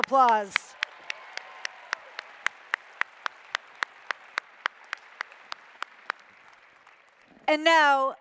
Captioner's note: applause